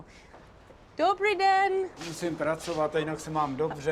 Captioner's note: speaking Czech; speaks Czech